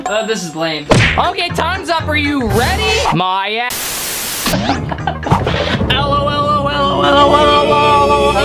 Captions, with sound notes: Oh this is lame. Okay, time's up, are you ready? (television static) (laughing) Lololololololololololol.